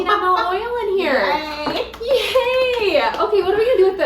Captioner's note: laughs and claps